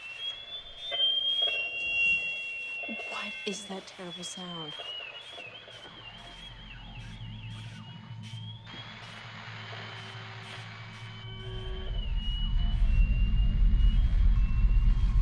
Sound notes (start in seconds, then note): 0.1 alarm; 5.1 whistle; 7.6 fire smoke alarm; 11.1 whistle